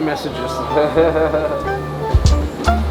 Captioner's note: laughs; upbeat music